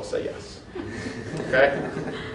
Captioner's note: laughter